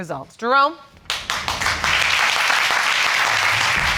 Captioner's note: audience applauding